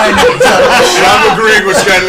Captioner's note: all laugh